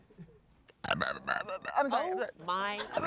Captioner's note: burps